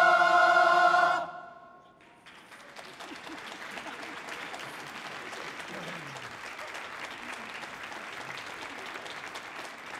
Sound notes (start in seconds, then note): 2.2 audience applauding